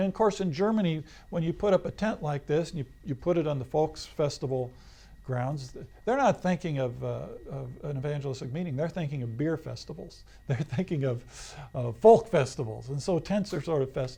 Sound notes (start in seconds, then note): 10.5 laughs